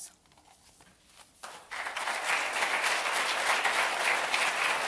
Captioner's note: audience clapping